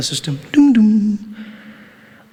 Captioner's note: PA system sound effect